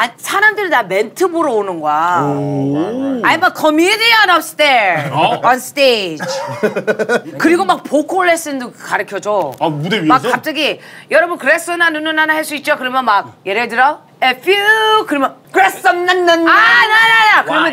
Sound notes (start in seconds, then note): 15.5 crowd